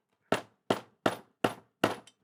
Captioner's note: hammering